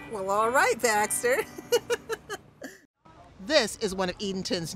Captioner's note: laughs